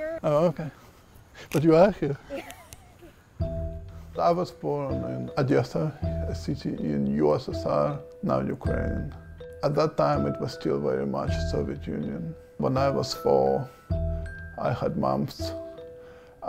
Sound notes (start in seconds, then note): 2.1 woman laughs